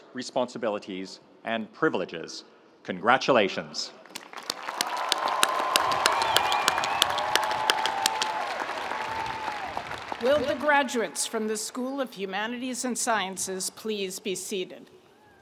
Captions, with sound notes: responsibilities, and privileges. Congratulations. (audience cheering) (audience applauding) - Will the graduates from the School of Humanities and Sciences please be seated?